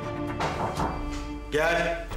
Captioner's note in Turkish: Kapı çalınıyor